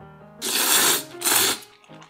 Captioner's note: the sound of eating noodles